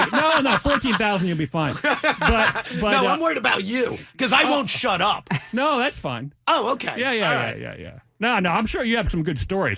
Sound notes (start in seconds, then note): 2.7 laughing